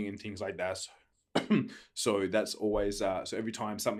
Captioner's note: coughs